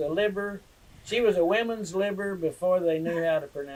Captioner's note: laughter